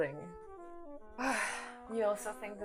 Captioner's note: sighs